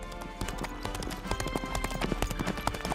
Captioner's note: horse galloping